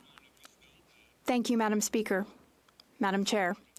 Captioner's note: speaking French